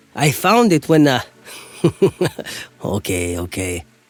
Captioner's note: laughs